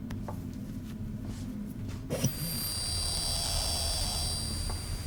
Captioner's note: static whines and hisses